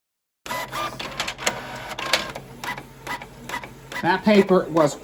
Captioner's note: document printing